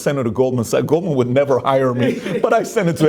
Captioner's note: laughing